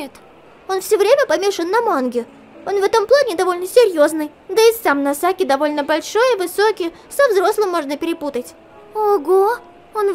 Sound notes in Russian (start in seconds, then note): none